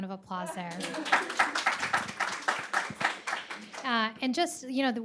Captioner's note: audience applauds